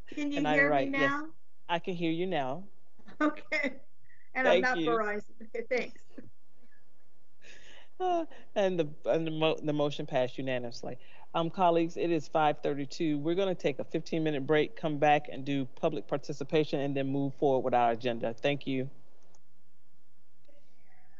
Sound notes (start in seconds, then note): 4.4 laughs; 7.0 members laughing